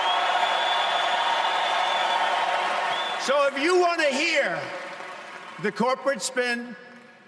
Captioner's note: cheers and applause